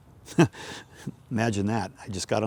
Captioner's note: laughs